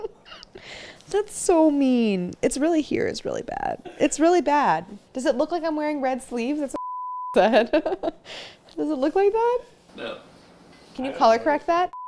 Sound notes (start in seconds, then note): 6.8 beep